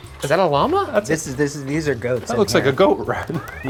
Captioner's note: stammers